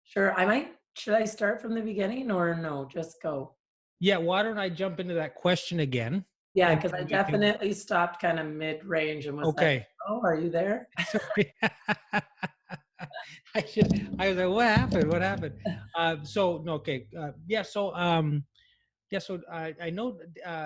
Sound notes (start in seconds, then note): 11.0 both laughing